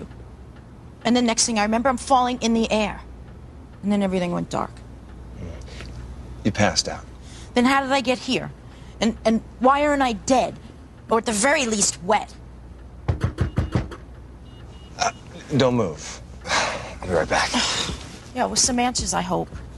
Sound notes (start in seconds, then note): 13.0 чука на вратата; 16.4 въздишане